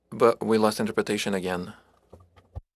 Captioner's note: speaking French